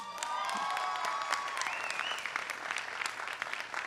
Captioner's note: applause